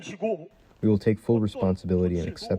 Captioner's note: through translator